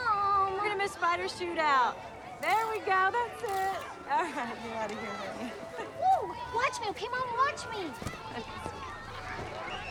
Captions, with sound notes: - Mom! - We're gonna miss spider shootout. There we go, that's it. (camera shutter clicks) All right, get out of here then. - Woo, watch me, okay, mom? Watch me. - Okay, sweetie.